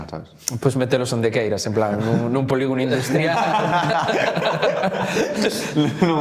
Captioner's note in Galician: risas